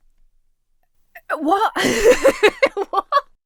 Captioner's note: Emma laughs